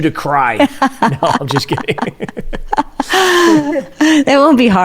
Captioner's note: laugh